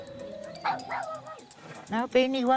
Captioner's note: trumpets; continues barking